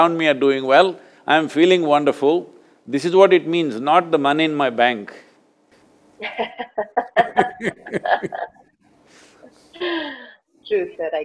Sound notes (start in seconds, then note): 6.2 both laugh